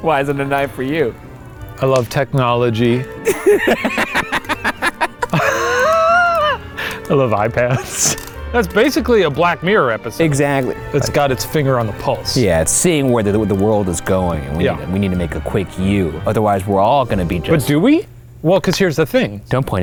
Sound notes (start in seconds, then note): 3.2 both laughing